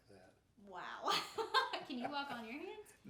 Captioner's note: laughing